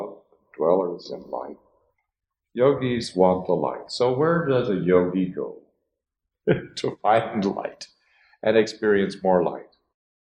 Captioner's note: laughs